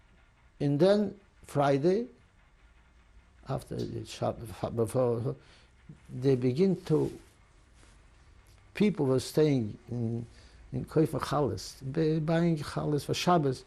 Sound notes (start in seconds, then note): 0.0 non-english; 10.9 non-english